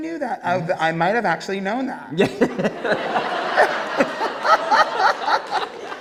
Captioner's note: Peppermint and Julie laughing